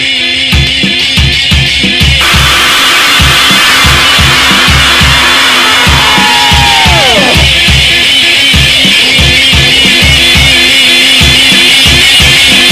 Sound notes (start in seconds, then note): 2.2 stuttered scream